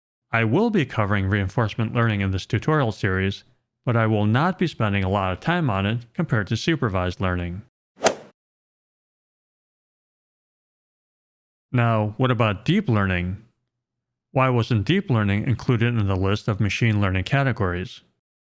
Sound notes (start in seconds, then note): 8.0 golf swing sound effect